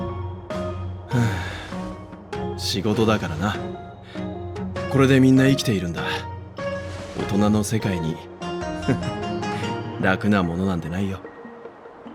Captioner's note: sigh